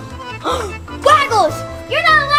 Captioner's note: gasps